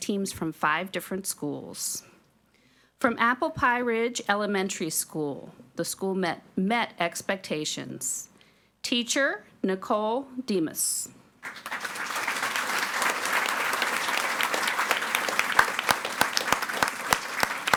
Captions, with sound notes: from five different schools. From Apple Pie Ridge Elementary School, the school met expectations. Teacher, Nicole Demus. (audience applauding)